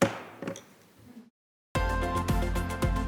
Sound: hammer bangs; upbeat music

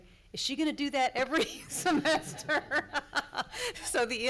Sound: laughing

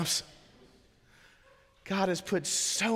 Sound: congregation laughing

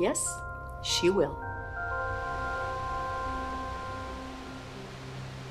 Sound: water rushes

